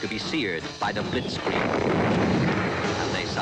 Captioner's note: guns booming